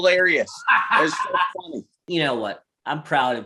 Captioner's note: laughing